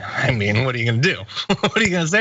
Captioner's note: laugh